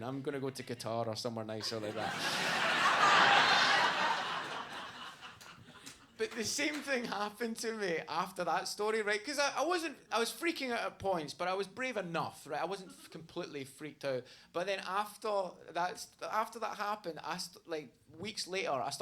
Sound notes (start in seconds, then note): 1.6 audience laughs